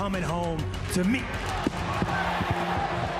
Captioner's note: cheering